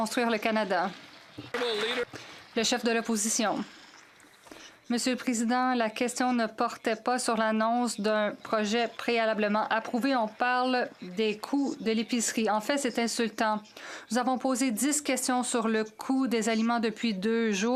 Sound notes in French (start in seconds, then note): 5.2 voix de l'interprète